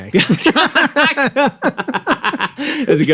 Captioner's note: both laughing